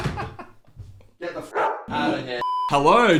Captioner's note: laughing; dog barking